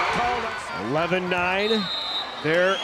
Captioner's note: whistle blows